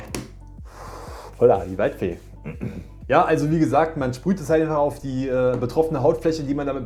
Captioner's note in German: schnauben; räuspern